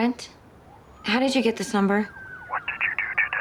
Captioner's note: siren wailing